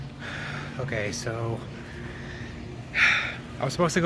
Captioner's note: sighs